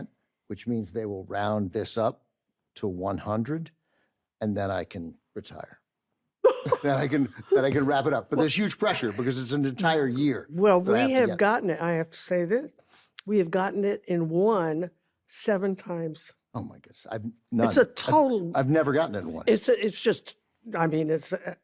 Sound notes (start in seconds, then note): 6.4 carol laughs